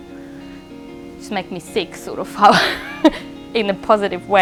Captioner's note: laughs